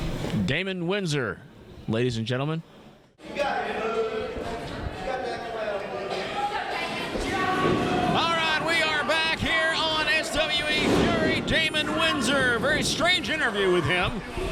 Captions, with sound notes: - Damon Windsor, ladies and gentlemen. (crowd clamoring) All right, we are back here on SWE Fury. Damon Windsor, very strange interview with him